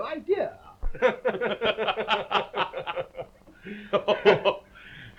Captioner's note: both laughing